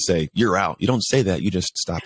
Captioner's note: laughs